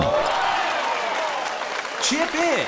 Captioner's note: crowd Cheers!